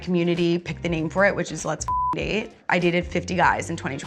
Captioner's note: beep